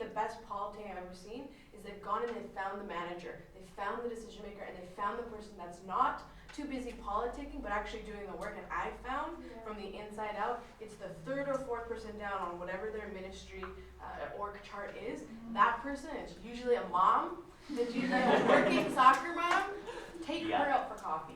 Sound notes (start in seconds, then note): 17.7 laughter